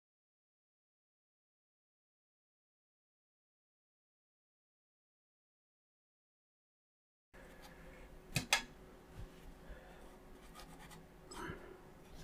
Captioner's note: silence